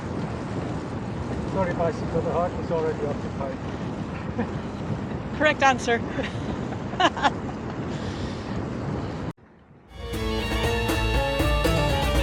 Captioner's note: laughter